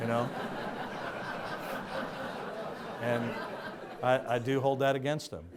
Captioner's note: audience laughs